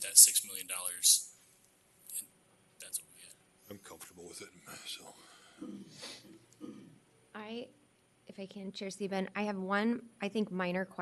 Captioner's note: snorts